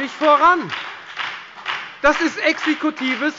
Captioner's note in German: Beifall bei der FDP und bei Abgeordneten der SPD